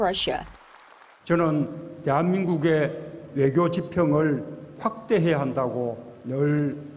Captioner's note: Korean